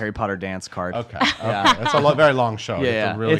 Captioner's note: laughs